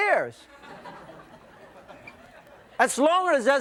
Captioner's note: audience laughing